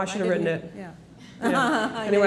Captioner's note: laughs